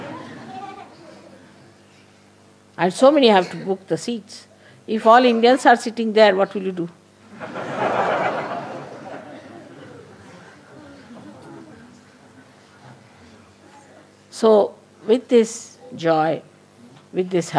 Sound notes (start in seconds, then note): 0.5 laughter; 10.5 laughter